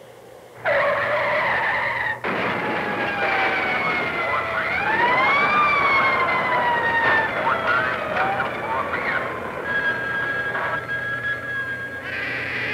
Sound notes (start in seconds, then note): 0.5 screeching tires; 1.9 crashing; 2.9 police sirens; 3.0 police radio chatter; 10.0 phone ringing